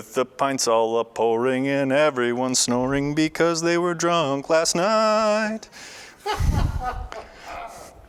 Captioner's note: laughter off camera